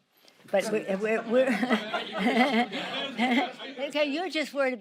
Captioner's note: Nancy laughs